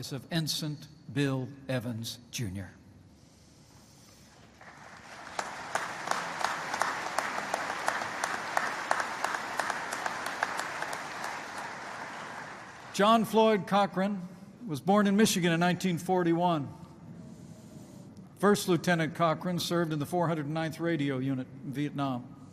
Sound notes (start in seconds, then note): 4.5 applause